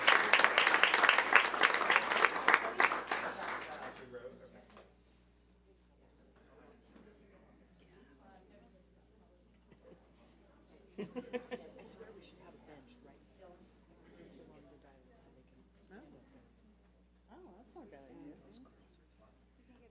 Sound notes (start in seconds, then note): 4.9 audience chatter